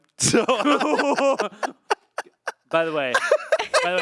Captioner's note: group laughing